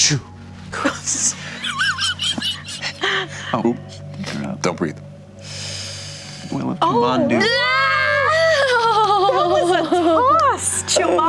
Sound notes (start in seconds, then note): 0.0 dramatic exhale; 0.7 group laughter; 7.8 group screams in shock